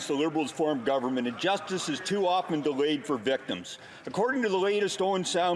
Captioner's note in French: voix de l'interprète